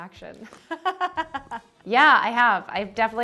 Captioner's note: laughing